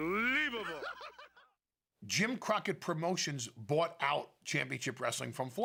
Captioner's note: laugh